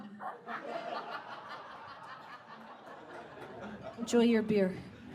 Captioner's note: audience guffaws; burst of audience laughter